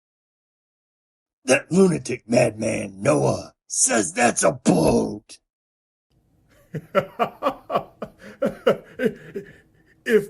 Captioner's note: laughing